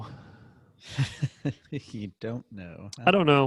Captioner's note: laughing